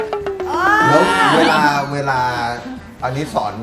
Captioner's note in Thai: เสียงเอฟเฟกต์; ร้อง